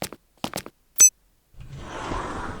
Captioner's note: card reader beeps